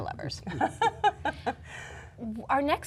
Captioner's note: laughter